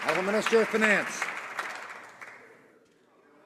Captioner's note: some Applause